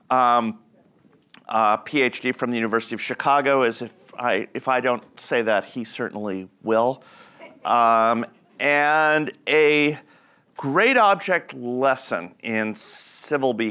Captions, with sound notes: A PhD from the University of Chicago, as if I don't say that, he certainly will. (audience laughs) And a great object lesson in civil behavior